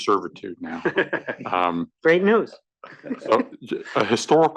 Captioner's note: laugh